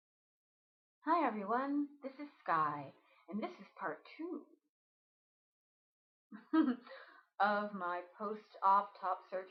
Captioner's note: laughs